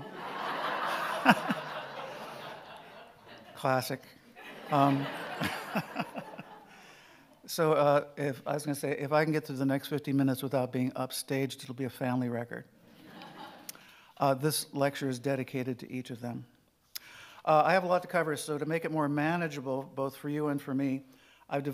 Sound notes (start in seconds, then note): 0.0 audience laughing